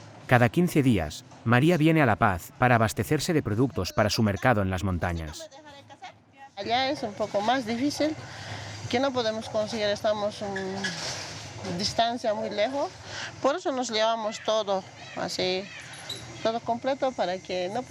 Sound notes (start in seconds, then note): 7.2 speaking in foreign language